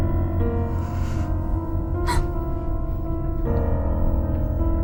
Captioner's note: Ira sighs